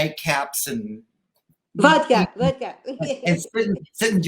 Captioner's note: giggles